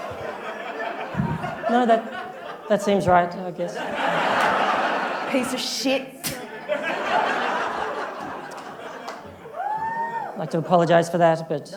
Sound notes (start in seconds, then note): 6.7 spits